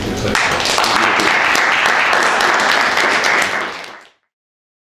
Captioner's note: audience applauds